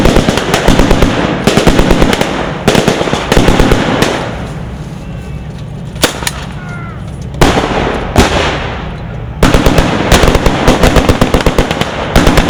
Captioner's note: tank engine noise